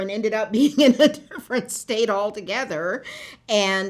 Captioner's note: laughter